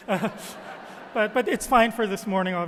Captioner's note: audience laughing